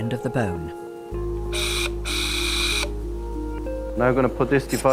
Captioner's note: gentle apprehensive music; drill whirring